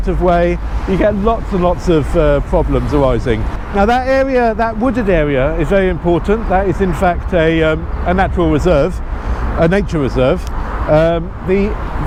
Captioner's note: nature